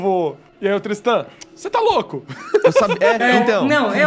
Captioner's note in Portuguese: risos